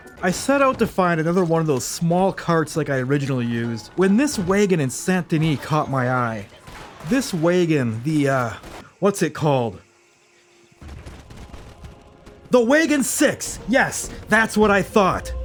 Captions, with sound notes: I set out to find another one of those small carts like I originally used when this wagon in Saint Denis caught my eye. This wagon, the uh... What's it called? [gunshots] The Wagon 6! Yes, that's what I thought.